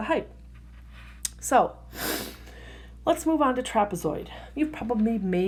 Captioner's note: big breath